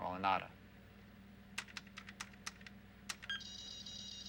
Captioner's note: keys clicking